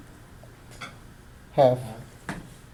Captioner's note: voiceover